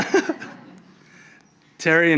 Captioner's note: audience laughs; laughs